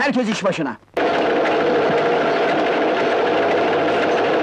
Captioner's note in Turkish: Fonda ortam gürültüsü